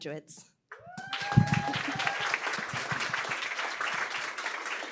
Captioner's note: cheering, applause